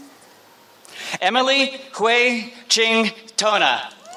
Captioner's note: applause